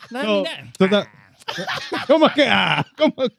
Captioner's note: laughing